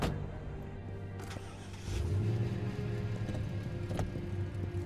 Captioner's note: truck starting